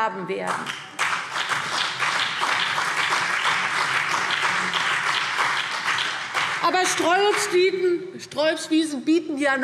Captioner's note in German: Beifall CDU und BÜNDNIS 90/DIE GRÜNEN